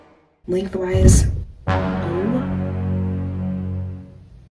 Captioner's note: REALLY annoyed sound effect